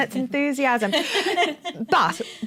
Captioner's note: laughter